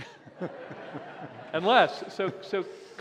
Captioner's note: laughter